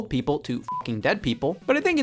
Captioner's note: beep